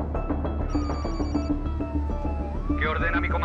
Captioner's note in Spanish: Suena un celular